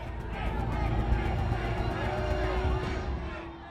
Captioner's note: crowd chanting indistinctly